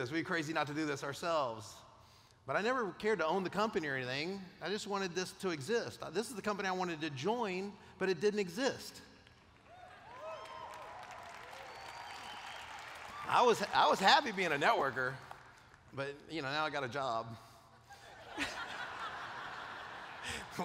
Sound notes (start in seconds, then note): 9.6 cheers; 17.8 laughter